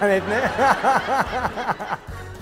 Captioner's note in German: lacht